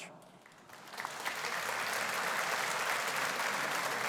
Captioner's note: audience applauding